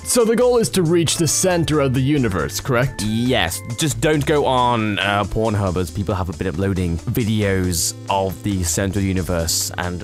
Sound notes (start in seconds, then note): none